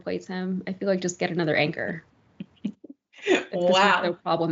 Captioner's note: laugh